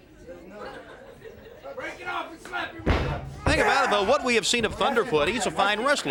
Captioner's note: crowd chatter